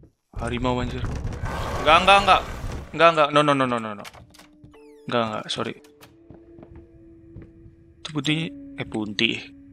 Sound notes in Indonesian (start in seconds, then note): 0.8 gedoran pintu; 1.4 suara auman